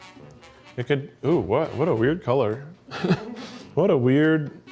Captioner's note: chuckles